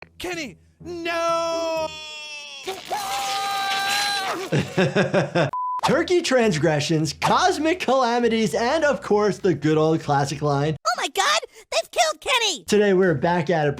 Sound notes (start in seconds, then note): 3.1 Kenny screaming; 4.2 laughs